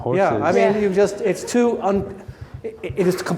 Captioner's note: laughs